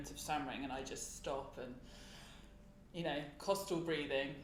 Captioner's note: inhales